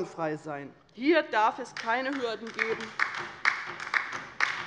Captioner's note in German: Beifall bei der LINKEN